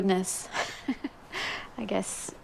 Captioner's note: laughing